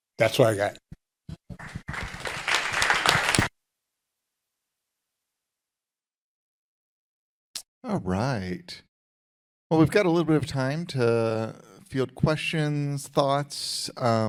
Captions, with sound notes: That's what I got. (audience applauding) - All right. Well, we've got a little bit of time to field questions, thoughts.